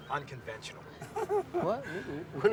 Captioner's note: laughs